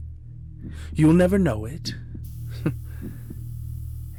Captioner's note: small laugh